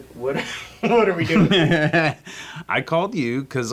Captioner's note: laughing